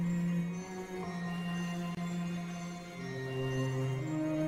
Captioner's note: none